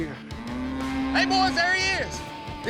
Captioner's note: mooing